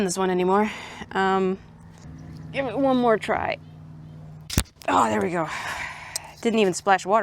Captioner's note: jar pops open; exhales